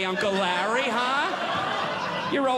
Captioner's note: audience Laughing